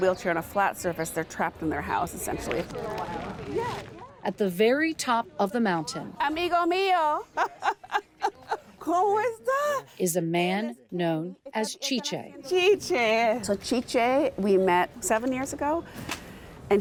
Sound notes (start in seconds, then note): 6.3 speaking in foreign language